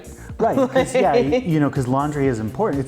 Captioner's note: laughing